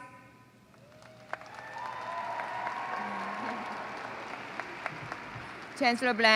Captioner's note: applause